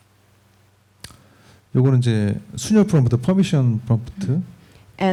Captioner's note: speaking korean